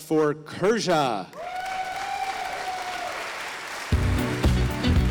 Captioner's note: audience applauding